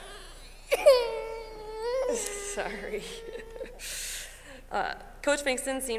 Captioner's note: child crying